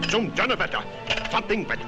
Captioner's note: boss speaking foreign language